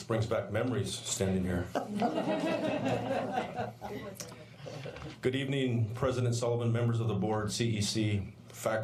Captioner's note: laughter